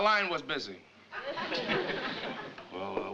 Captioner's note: audience laughing